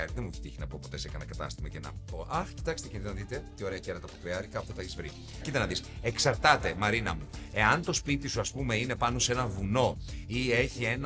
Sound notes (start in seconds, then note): none